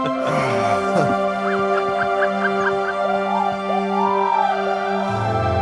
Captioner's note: happy trilling